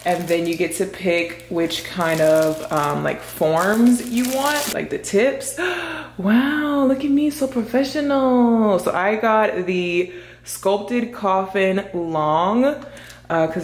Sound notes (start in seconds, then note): 6.2 gasps